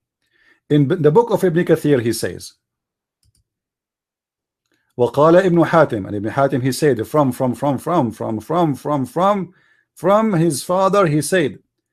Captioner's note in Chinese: 念阿拉伯语